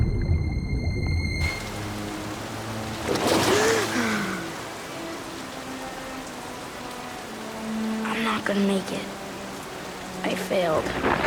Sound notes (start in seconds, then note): 3.8 gasping